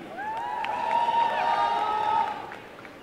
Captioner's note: applause and cheering